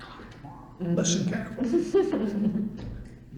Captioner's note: laughter